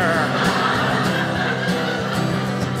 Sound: audience laughing

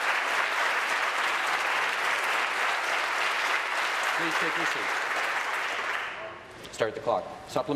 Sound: applause

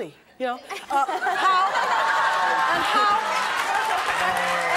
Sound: audience laughter

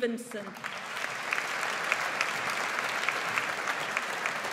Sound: audience applauds

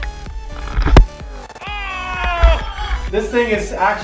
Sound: heavy thud

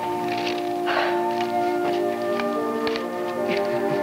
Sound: Fran sighs; Fran laughs

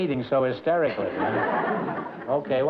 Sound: laughter

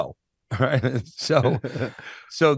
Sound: laughs

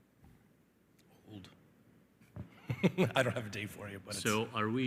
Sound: laughs

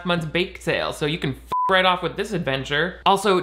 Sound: beeping

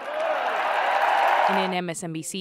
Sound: cheering

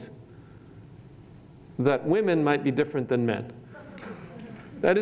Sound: laughter

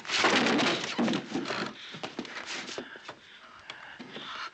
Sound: wood clattering

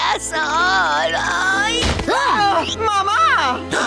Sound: gasping

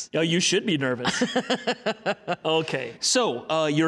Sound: laughing

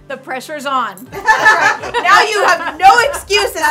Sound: laughing

